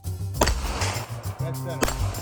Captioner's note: gun pops